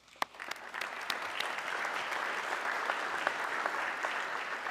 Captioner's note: audience clapping